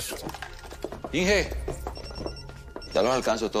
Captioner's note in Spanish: Suena el celular